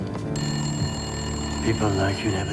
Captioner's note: ringing continues